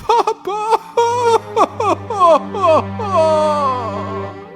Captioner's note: pitiful crying